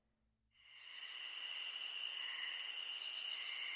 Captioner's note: crickets chirp